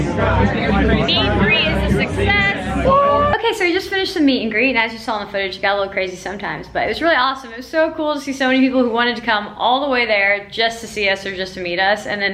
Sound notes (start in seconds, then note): 2.7 man yelling